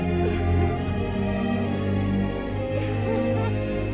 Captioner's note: dramatic music; crying